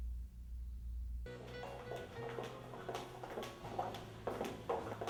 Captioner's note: soft music; footsteps